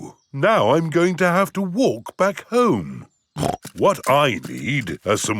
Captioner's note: snorts